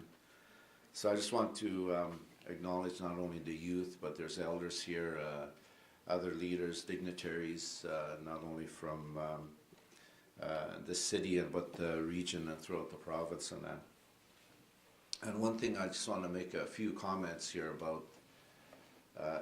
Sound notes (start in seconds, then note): none